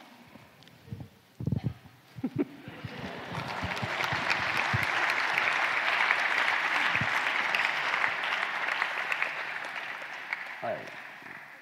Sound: laughs; applause; Sadhguru laughs

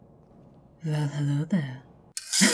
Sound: A warm, Eastern European-accented voice purrs behind your right ear

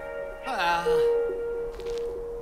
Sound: sighs

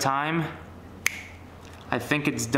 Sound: fingers snap

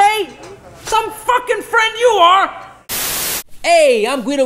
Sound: static hisses

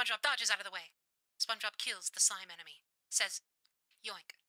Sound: radio Filter

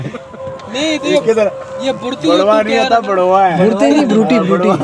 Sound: laughing

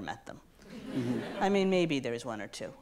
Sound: audience laughs

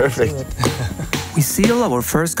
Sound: chuckles

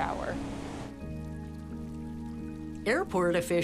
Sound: gentle rain falling

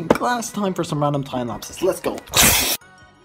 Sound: snorts powder

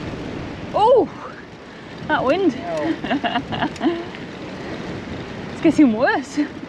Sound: laughter

